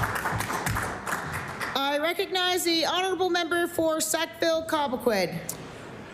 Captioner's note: applause